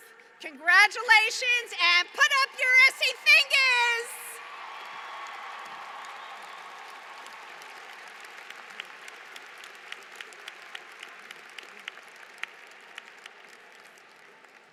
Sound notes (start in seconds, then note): 2.9 applause